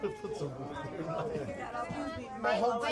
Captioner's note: chattering